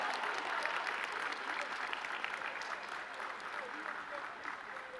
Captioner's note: audience clapping